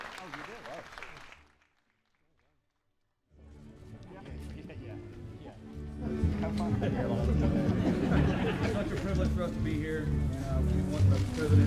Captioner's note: applause